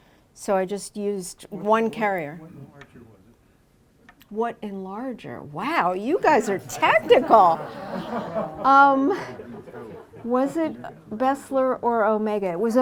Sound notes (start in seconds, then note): 6.5 laughter